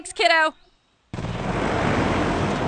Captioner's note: engine roars